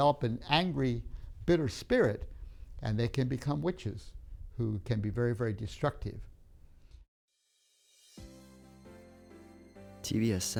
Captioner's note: TV sound